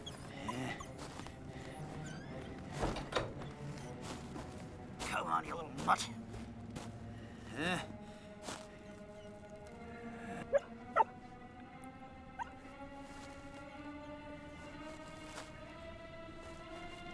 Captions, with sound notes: COME ON, YOU LITTLE MUTT. HUH? [ DOG BARKS ]